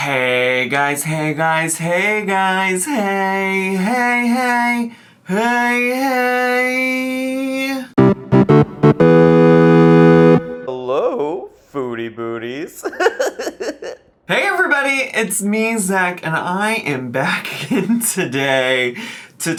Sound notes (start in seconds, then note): 7.9 upbeat music; 12.7 laughs